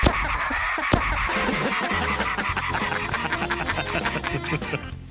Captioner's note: laughter